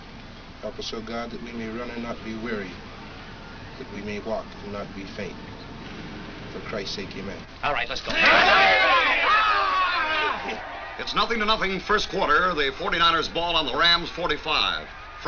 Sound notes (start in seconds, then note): 7.8 players yell